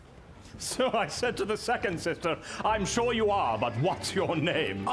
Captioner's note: Sounds of a busy London street